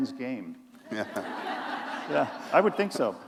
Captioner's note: laughter